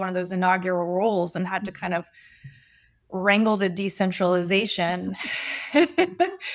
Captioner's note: chuckles